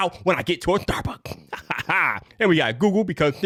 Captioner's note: laughing